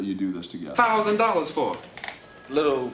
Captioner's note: phone rings